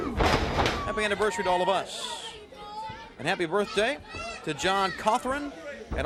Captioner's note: crowd chatter